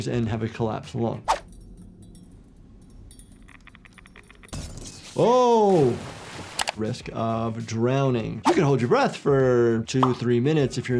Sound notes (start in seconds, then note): 4.7 light bulb explodes; 5.4 water splashes